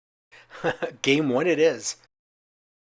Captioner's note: chuckles